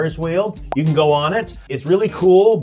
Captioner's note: graphic pops